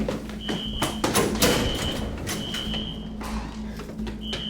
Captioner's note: alarm screeching